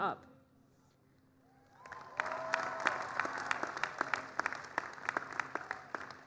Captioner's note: applause